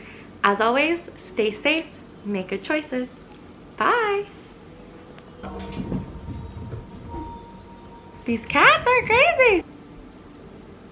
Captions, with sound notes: As always, stay safe, make good choices, bye!! *bells jingling* these cats are crazy!